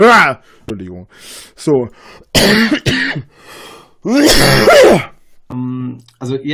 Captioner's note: coughs a lung out